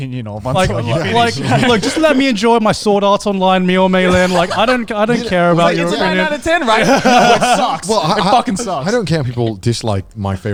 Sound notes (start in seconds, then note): 1.4 laughs; 7.3 all laughing